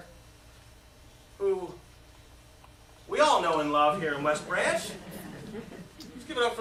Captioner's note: laughter